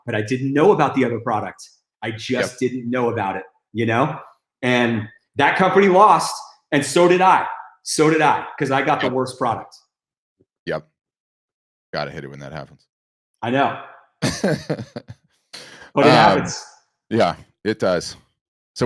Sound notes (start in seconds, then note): 14.2 chuckles